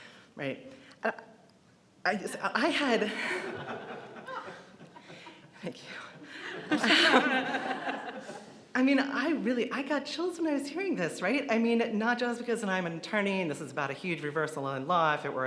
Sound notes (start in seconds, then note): 3.2 audience laughs